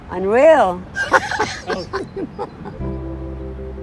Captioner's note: laughs